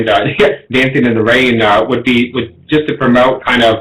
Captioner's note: laughs